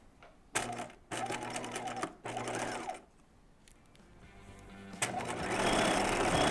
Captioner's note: gentle music; sewing machine whirring